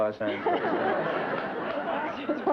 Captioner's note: laughter